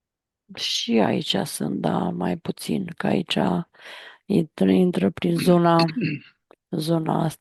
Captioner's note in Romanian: voce dreasă